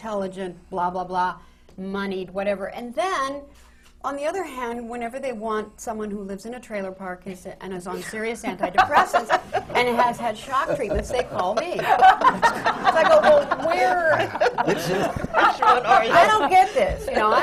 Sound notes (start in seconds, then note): 10.4 laughter